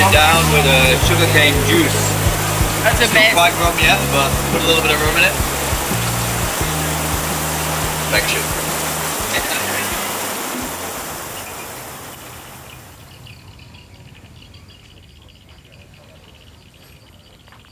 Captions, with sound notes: - You wash it down with a sugarcane juice. It's not quite Rum yet, but put a little bit of Rum in it. Perfection. (chuckles) (birds chirping)